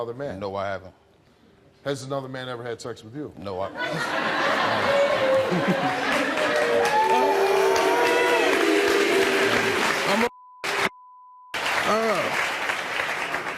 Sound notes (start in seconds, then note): 3.8 audience laughing; 6.6 audience yelling, applauding